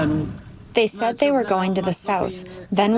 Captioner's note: through translator